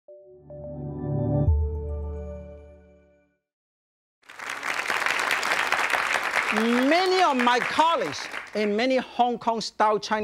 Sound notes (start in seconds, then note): 0.1 joyful music; 4.2 audience applauding